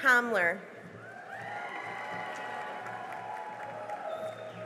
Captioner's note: cheering and applause